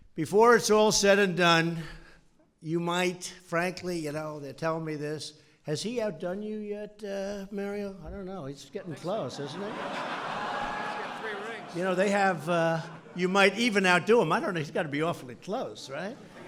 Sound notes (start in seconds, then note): 10.6 laughter